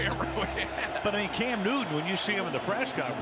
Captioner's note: laughs